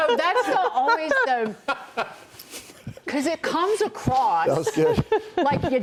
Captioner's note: laughter